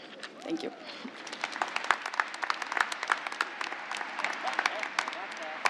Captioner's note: applause